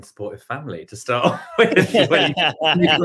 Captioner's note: laughs